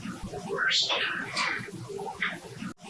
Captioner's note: eerie voice; eerie voice